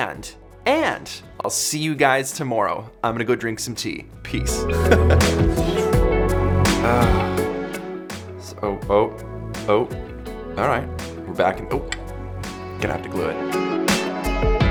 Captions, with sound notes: and, I'll see you guys tomorrow. I'm going to go drink some tea, peace. (laughs) Ahhh. So, ope, ope, alright we're back... gonna have to glue it.